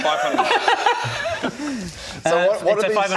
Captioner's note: laughs in faux-panic